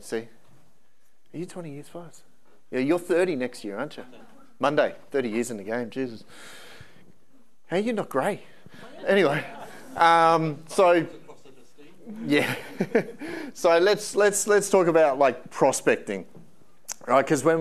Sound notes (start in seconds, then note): 8.7 audience laughing; 10.7 laughing